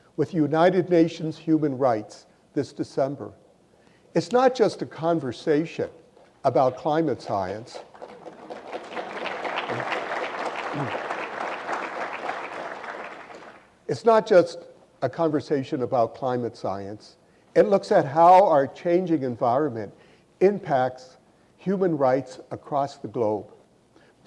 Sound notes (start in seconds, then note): 7.7 audience applause